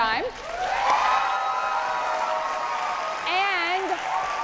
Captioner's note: audience cheering